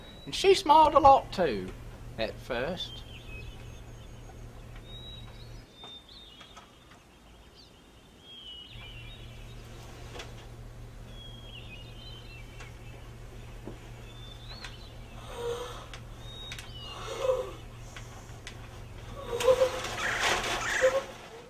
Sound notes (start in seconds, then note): 3.3 birds chirping